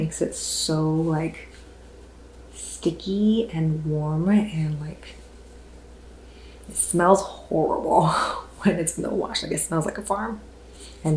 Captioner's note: sniff